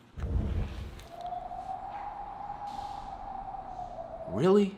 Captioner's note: wind howling